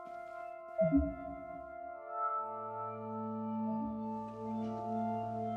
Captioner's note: home security app bleeping